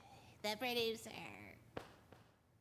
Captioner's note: mockingly